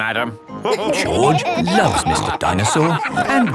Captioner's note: all laughing